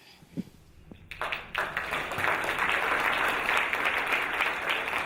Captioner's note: audience applauding